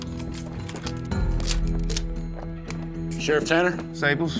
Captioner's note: cocking rifle